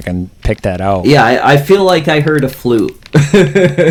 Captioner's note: laughs